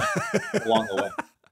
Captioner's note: laughing